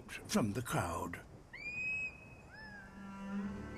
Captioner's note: high-pitched shrieks